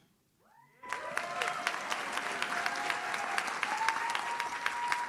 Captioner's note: audience cheers